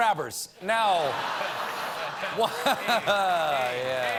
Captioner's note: laughter